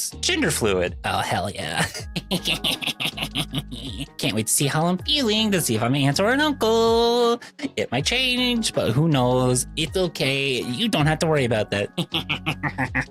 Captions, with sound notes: Gender fluid. Oh, hell yeah. [laughs] Can't wait to see how I'm feeling to see if I'm an aunt or an uncle. It might change, but who knows? It's okay, you don't have to worry about that. [laughs]